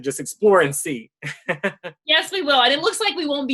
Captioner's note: chuckles